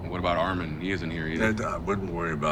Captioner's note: Dwight vocalizing